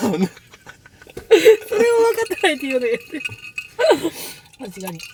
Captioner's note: laughs